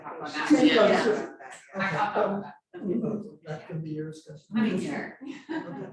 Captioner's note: indistinct conversation